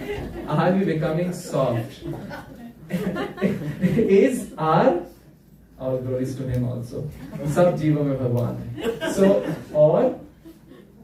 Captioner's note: laughter